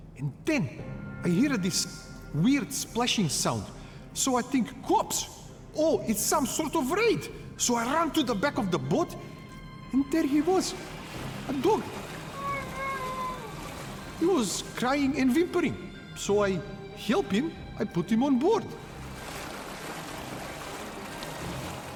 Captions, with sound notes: And then I hear this weird splashing sound. So I think, "Cops, oh, it's some sort of raid." So I ran to the back of the boat, and there he was, a dog. (water sloshing) (Archie whimpering) He was crying and whimpering. So I help him. I put him on board. (water sloshing)